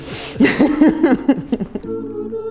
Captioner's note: both laugh